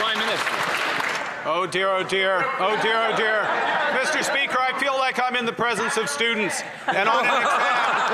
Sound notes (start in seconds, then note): 1.7 some Applause